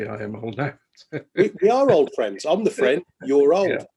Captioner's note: laughing